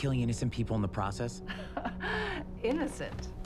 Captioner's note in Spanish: Risas